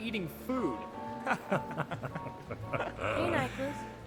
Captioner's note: Nyklus and Keon laughing